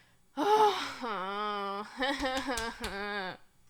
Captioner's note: crying